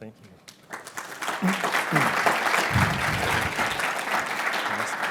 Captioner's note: applause